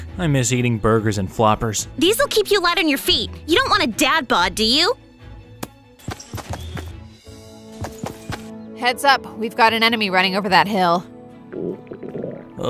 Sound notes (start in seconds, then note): 5.6 banana thuds; 7.0 upbeat calm music; 11.5 stomach gurgling